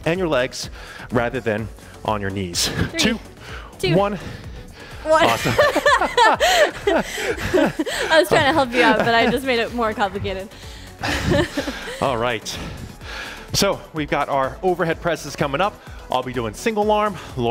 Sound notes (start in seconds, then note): 5.0 laughs; 11.5 laughs